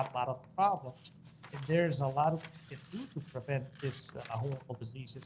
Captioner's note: audio cutting in and out